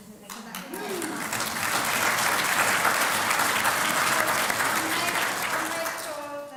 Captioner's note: applause